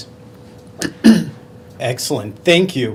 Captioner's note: clears throat